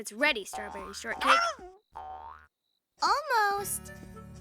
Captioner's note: yelps